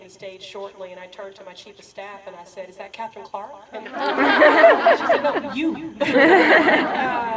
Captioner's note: laughter